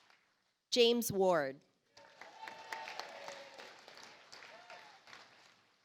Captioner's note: audience applauds